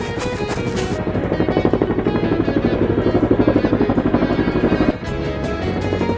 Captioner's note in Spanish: Sonido de helicóptero